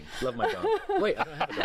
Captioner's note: laughter